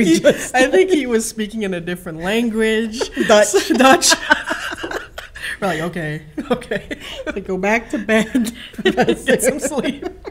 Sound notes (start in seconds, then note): 4.5 laughing